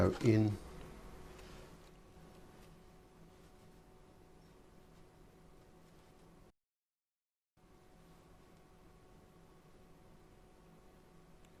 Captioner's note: silence